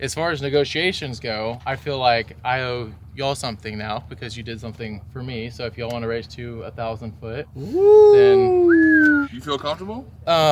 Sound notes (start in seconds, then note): 7.6 they exclaim